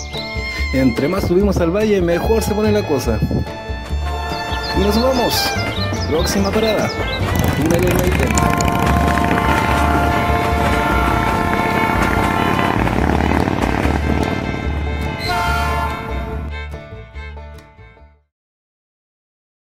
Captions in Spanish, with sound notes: entre más subimos al Valle mejor se pone la cosa y nos vamos... próxima parada "Túnel Maitén" [Sonido Motocicleta] [tren se aleja]